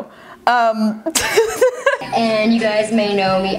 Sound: laughs

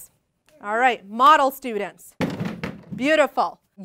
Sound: slamming noise of elbows hitting desks

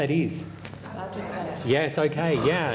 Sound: murmurs from audience

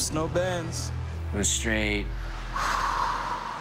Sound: sigh

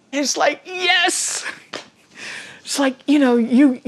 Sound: chuckles

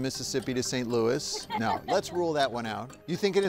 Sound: laughing

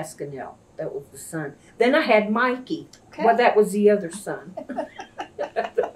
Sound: laughter

